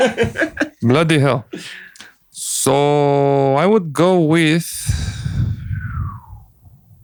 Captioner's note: sighs